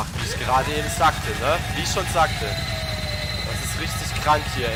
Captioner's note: loud screaming combined with creepy, eriee music